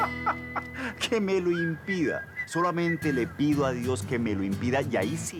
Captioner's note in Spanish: Risas